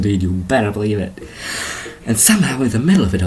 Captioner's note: inhale